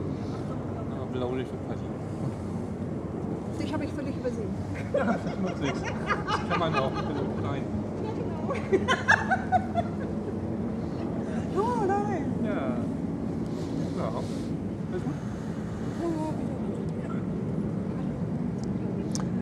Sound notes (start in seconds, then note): 8.5 laughs